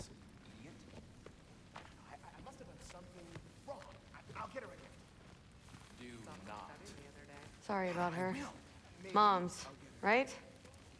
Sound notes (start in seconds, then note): none